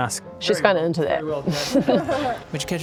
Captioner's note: thirsty chuckles